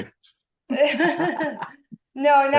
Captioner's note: laughs